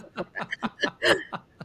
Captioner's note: laughing